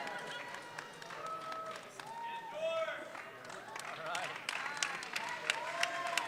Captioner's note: audience clapping and cheering